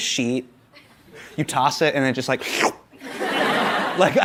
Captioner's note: suction sound